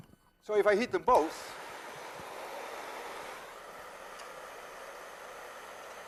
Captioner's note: flame whooshing